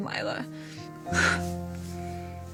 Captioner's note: exhales